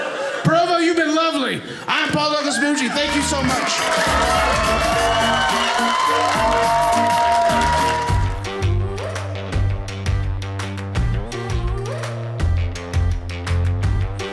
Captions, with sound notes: Provo, you've been lovely. I'm Paul Douglas Moomjean. Thank you so much. (audience cheering)